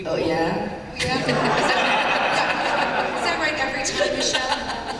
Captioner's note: laughter